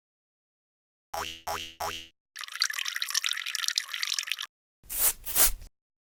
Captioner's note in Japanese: 犬の足音・オシッコをする音・砂をかける音